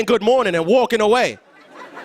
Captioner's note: laughter